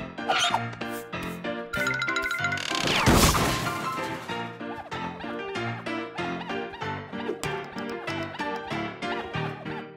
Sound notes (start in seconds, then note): 4.6 squeaking